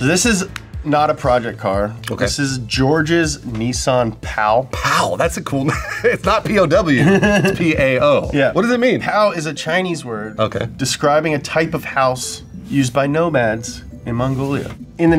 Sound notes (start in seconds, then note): 5.6 laughs